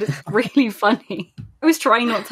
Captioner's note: laughs